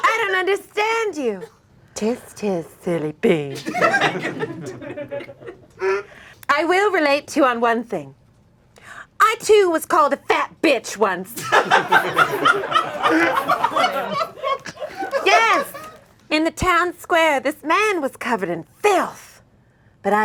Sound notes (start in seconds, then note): 3.6 audience laughing; 11.3 audience laughing